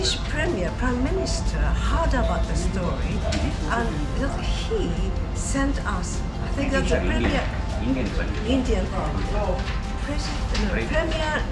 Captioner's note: announcement on speaker